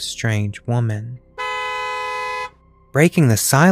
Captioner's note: horn honks